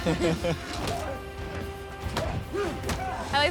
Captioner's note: chuckling